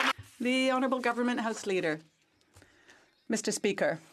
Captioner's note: some Applause